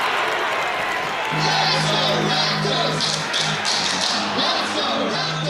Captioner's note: sports Crowd Cheering; chanting